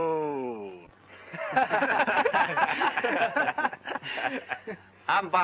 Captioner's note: men laughing